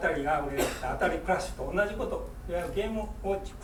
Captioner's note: speaking in foreign language; coughing